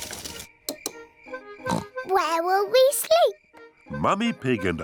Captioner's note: oinks